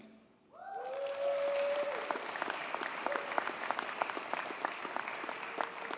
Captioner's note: audience cheers and applauds